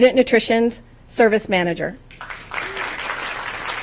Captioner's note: applause